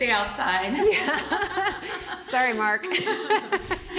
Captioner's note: laughing